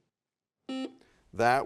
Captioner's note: buzzer sounds